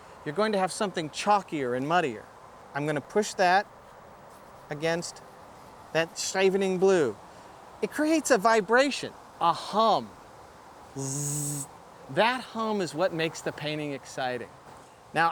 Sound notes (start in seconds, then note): 10.9 vocalizes